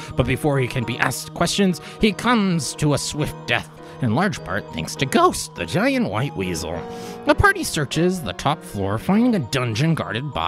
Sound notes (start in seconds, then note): none